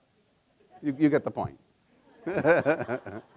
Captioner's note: laughs